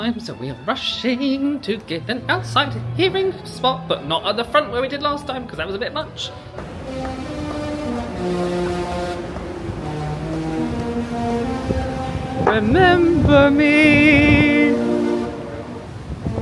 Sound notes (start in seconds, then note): 7.1 horns blaring